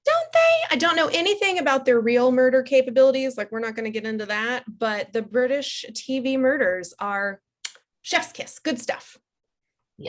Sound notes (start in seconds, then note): 7.6 kiss